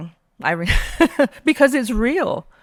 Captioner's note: laughing